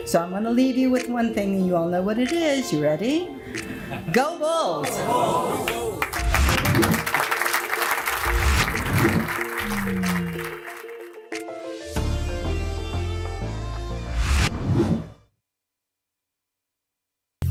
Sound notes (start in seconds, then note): 5.6 audience clapping; 11.0 upbeat music